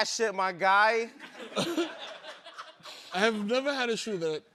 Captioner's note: laughter